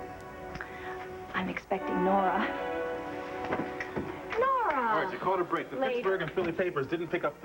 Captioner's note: knock on door